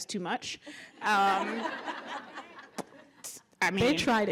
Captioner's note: laughter